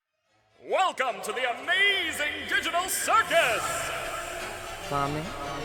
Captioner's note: voices echoing throughout